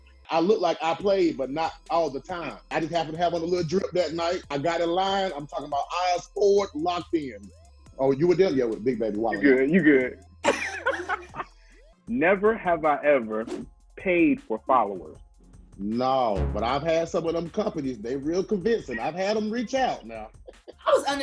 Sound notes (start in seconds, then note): 10.4 laughing; 20.2 laughing